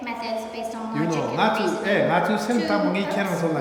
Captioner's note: speaking tibetan